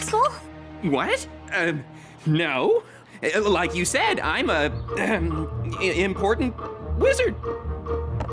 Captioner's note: ahem